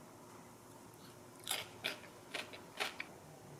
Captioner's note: crunch crunch